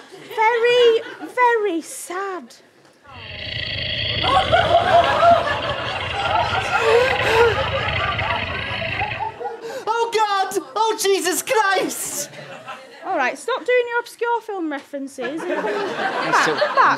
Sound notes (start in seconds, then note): 3.0 scary growling; 6.4 whimpers